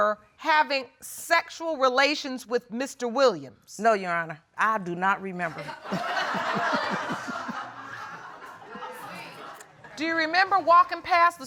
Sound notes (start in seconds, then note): 5.6 audience laughing; 5.6 laughs